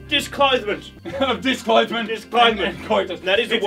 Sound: chuckles

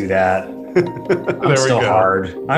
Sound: laughing

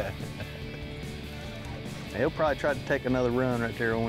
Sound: laughing

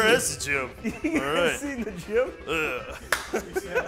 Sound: man laughs

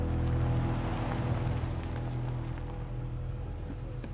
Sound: car revs; ominous music

